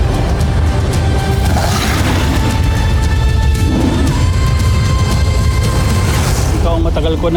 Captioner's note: energy whoosh-crackle; guttural roar; music swells; screeching roar